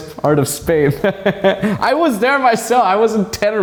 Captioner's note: laughing